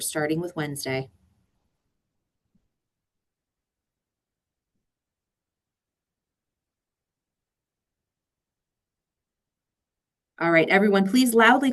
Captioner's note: silence